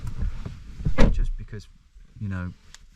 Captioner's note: car door shuts